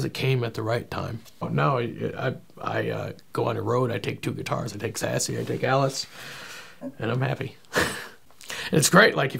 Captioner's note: chuckles